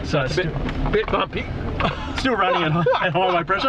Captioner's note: laughs